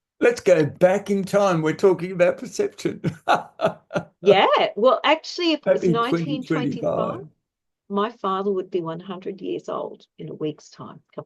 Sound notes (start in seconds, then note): 2.2 laughs